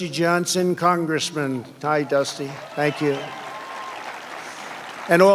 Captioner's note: applause